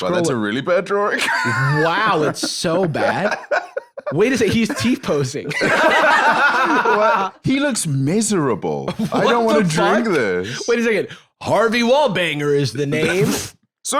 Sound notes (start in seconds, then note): 5.4 both laughing; 8.9 laughing